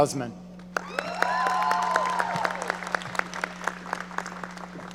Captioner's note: audience cheering